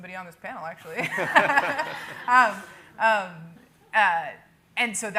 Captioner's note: everyone laughing